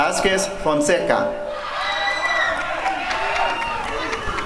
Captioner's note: applause and cheering